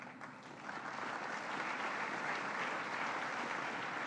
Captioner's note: applause